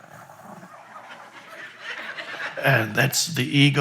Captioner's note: audience laughs